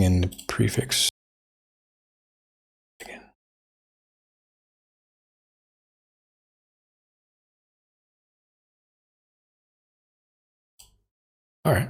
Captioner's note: blank Audio